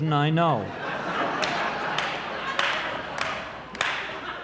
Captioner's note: audience laughing